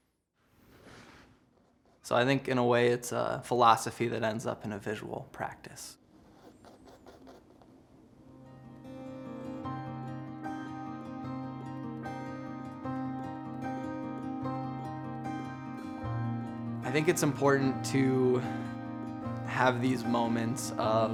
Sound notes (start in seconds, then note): 6.0 paint brush stroking; 8.4 pensive instrumental music